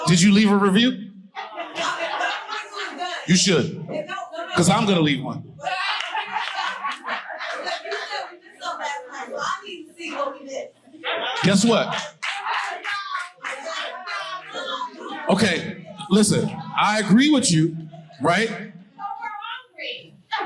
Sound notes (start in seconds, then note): 5.6 people laughing